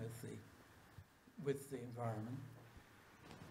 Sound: none

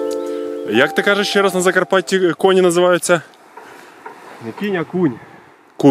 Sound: A thick accent of Ukrainian

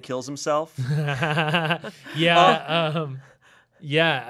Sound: chuckling

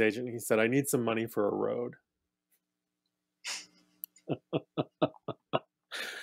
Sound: laughs

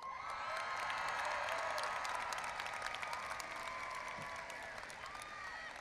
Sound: audience applauding and cheering

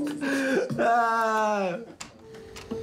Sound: laughs

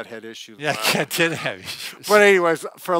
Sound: laughs

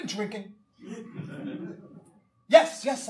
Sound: audience laughing

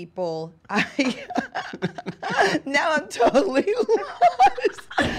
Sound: laughing

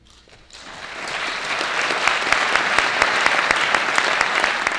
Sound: audience applauding

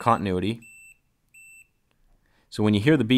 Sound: beeping

